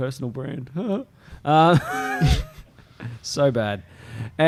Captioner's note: laughter